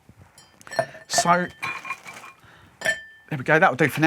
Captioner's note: ice clinking